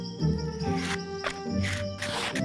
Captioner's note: hook scraping